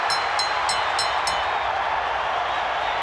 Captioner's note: bell ringing; crowd cheering